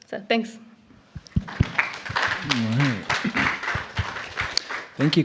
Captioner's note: applause